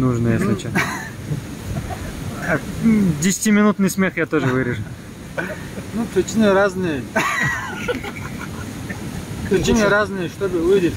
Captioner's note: смех